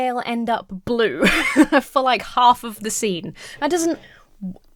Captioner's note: laughs; stammers